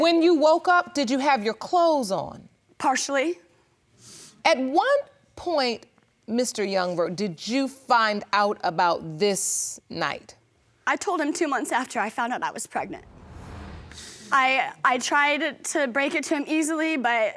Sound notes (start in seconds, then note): none